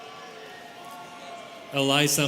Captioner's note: students cheering